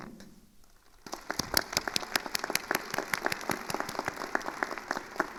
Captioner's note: attendees applauding